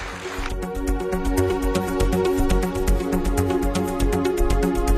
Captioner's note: applause